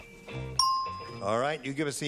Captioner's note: funky music; ding